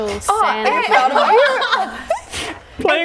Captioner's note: laughing